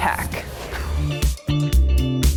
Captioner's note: upbeat music; graphics whooshing